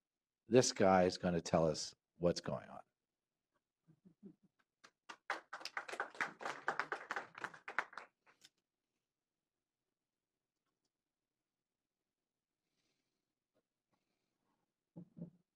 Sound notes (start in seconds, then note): 4.8 applause